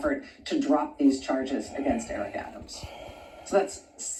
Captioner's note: sighs